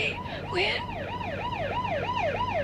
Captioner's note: sirens wailing